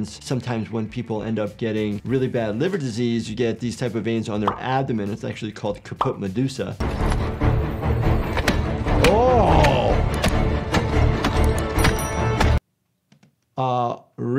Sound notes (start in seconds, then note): 6.8 dramatic music; 8.4 shield thudding; 10.1 dramatic music; 10.1 shield thudding